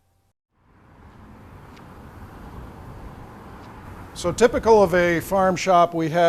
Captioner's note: traffic rumbles in background